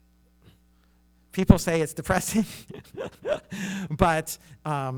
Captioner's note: laughs